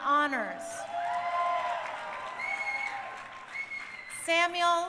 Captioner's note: crowd cheering